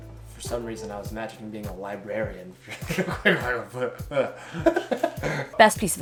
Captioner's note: both laugh